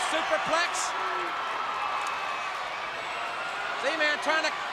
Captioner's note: crowd cheering